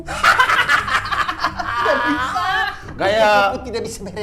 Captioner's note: laughing cynically